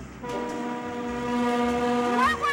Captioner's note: train whistle blowing